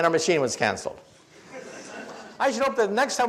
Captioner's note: audience laughs